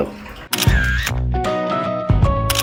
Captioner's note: photo snapping sound; base guitar music